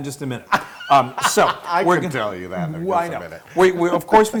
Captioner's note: laugh